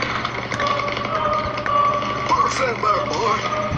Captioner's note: chainsaw Whirring